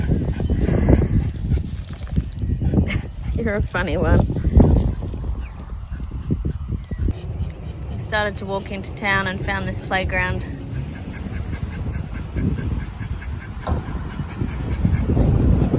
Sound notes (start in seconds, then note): 2.7 sighs; 2.8 resigned laugh; 12.3 dog pants loudly